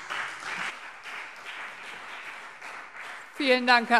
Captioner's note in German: Beifall BÜNDNIS 90/DIE GRÜNEN und CDU